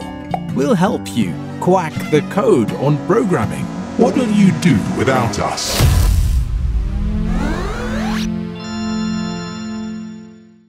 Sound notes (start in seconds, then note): 5.8 impact noise